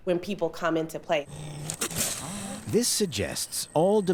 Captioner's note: growling